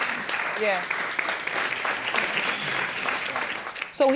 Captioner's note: audience applauds